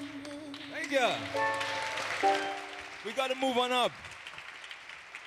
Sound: applause

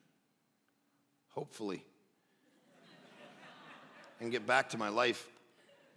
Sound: congregants laugh

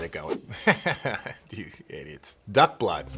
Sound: laughing

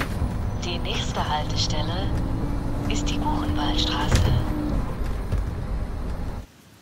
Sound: speaker voice speaking in foreign language

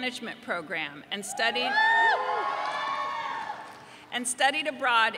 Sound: audience cheering

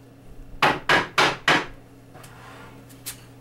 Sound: pounding

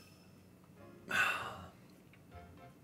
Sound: sigh

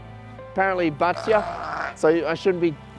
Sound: sheep bleats

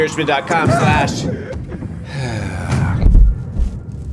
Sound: sigh

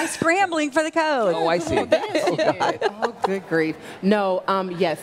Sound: laughter

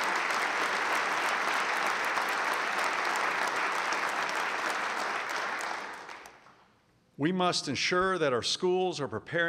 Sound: applause

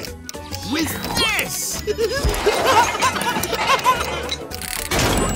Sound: laughing

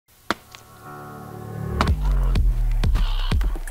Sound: banging

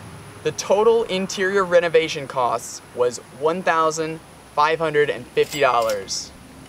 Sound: cash register ding

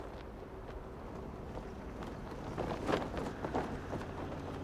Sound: balloon flaps hard in breeze

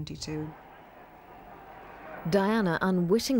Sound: crowd cheering

